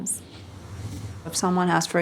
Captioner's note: whooshing